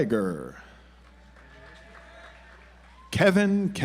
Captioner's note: audience applauds